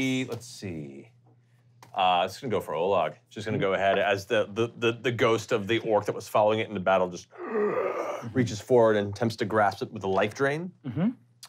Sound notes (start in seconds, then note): 7.2 moans